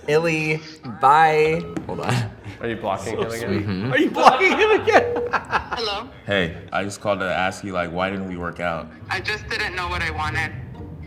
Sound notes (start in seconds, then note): 5.8 laughing